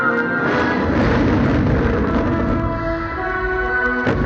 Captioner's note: fireworks booming